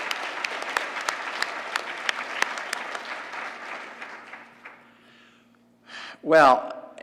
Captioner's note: applause